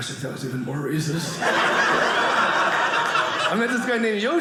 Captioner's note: audience laughing